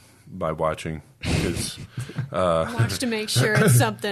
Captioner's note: laughs